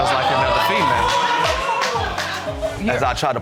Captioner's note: audience exclaims